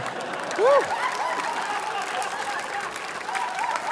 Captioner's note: laughter